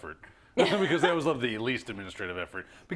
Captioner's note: laugh